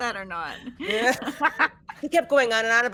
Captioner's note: all laughing